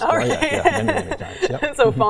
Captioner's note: chuckles